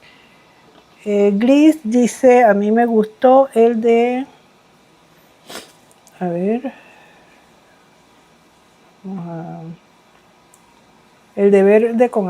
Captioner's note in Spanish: resoplido